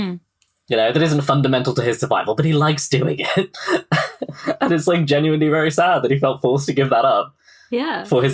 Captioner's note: laughs